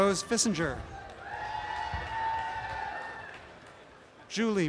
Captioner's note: applause and cheering